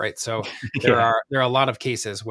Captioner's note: laughs